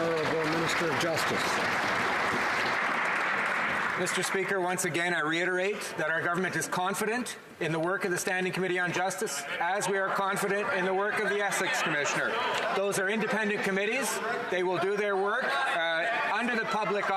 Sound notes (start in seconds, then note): 1.7 some Applause